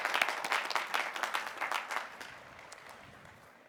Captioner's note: applause